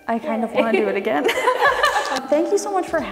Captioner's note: laughing; all laughing; hands slapping